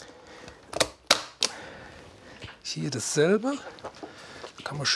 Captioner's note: stapling